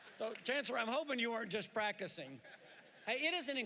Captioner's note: laughter